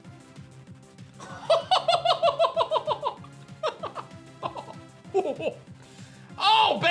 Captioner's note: laughs